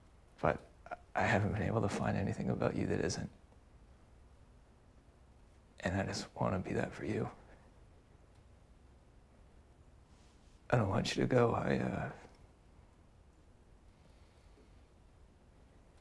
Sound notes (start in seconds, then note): none